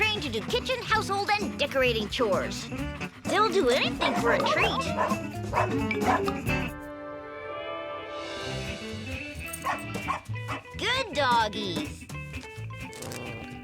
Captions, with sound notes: kitchen, household, and decorating chores. They'll do anything for a treat. (dogs barking) (cheerful music) Good doggies.